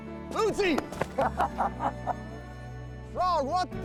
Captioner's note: laughter